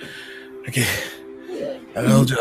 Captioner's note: breathes heavily